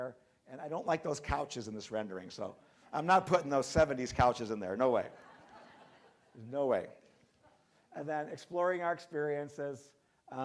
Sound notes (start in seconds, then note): 5.0 crowd laughing